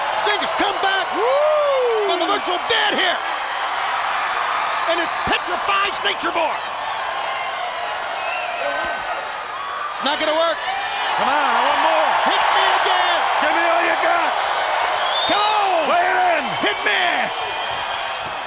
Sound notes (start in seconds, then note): 0.2 crowd cheering; 1.4 Bobby cheering; 3.5 crowd cheering; 6.6 chop striking; 7.6 crowd cheering; 14.3 chop striking; 17.2 crowd cheering